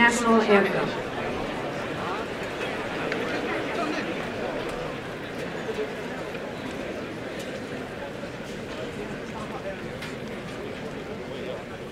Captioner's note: crowd murmurs